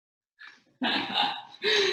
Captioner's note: laughing